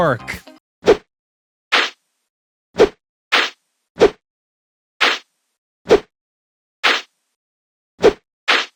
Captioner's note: whipping